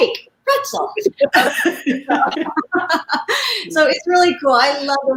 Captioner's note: laughing in unison